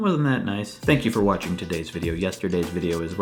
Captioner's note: slurred; outro music; low register